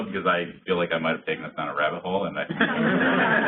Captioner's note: laughter